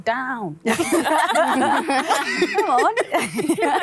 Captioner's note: all laughing